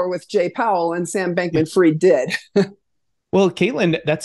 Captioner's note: laughs